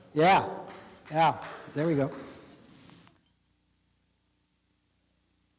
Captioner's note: quiet applause